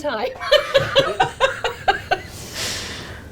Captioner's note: laughing